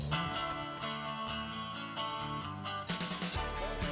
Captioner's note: car starts up